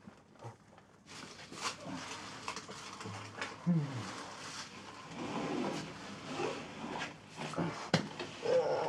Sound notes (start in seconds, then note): 3.6 Isaac sighing